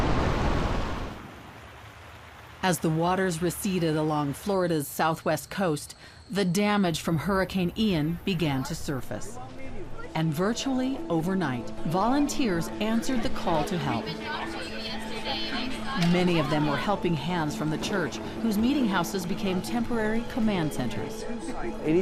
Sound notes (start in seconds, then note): 0.0 water babbling; 14.3 people chattering